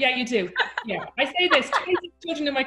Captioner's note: laughing